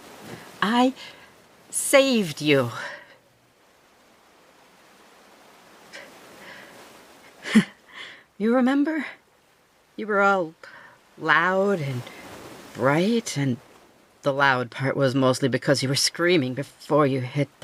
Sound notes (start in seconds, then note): 2.7 crawling stops